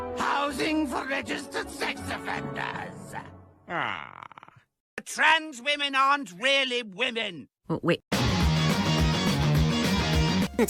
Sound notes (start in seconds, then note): 3.6 sad moan